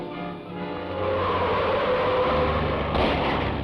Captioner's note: tires screech; gunshots